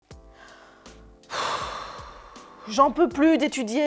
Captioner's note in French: souffle